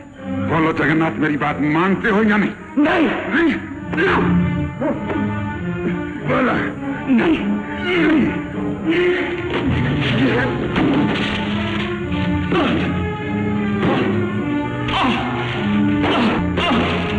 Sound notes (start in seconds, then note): 6.6 sounds of fighting, muffled exclamations